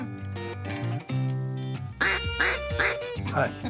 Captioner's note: duck call